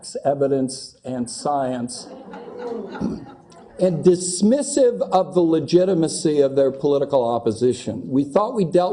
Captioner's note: laugh